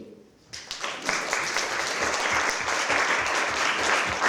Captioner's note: applause